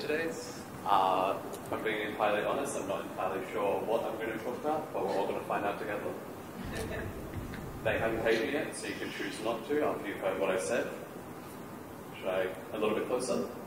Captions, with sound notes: If I'm being quite honest I'm not entirely sure what I'm going to talk about, but we're all going to find out together. [ Laughter ] They haven't paid me yet, so you can chose not to. after you've heard what I said. Would you like a little bit closer?